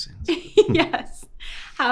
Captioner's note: host laughing